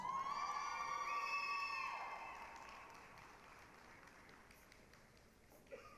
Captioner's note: applause, cheering